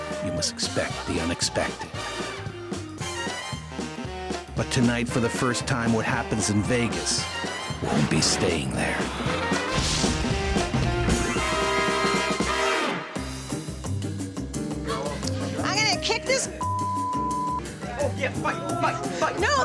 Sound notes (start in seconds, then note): 10.2 upbeat music; 16.6 beep